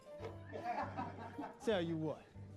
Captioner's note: men laughing